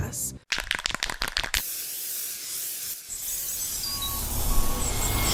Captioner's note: spray can rattling